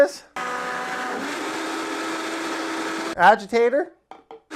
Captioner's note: blender whirring